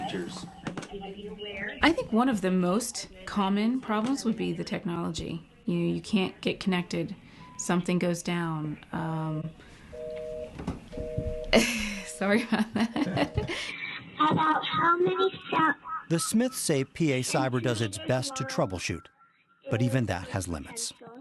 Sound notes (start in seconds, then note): 9.3 laughter